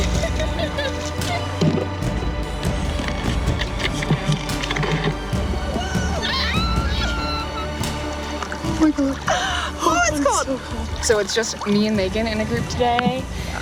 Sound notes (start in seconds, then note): 0.0 laughs; 5.7 screaming